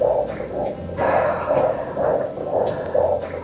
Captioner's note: the sound of a babies heartbeat